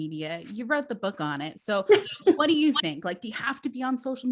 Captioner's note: laughs